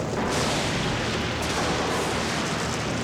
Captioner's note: thunder intensifies